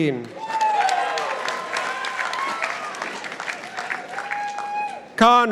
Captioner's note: participants applauding